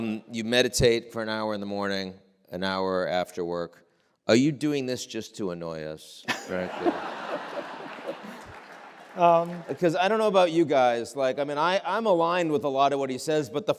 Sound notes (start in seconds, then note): 6.3 audience laughing